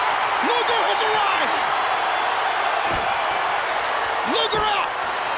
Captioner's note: applause